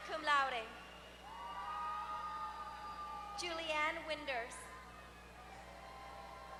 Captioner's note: applause